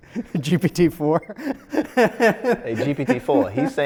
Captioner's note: laughs